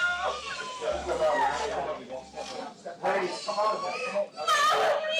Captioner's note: overlapping chatter